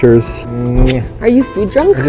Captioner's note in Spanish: smuack